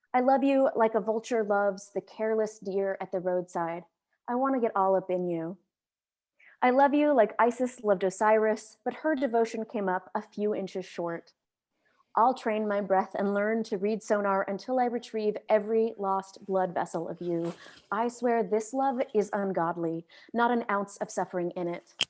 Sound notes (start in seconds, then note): none